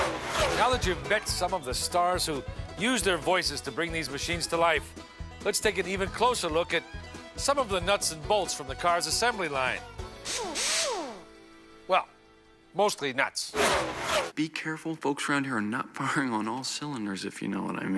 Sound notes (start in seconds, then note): 10.2 air wrench whirs